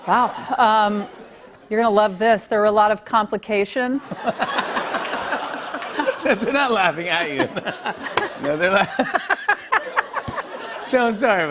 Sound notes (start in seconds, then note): 3.8 laughter; 9.0 laughing